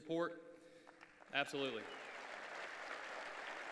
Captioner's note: applause